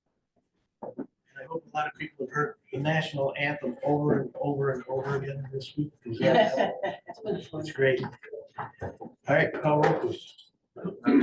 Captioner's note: laughter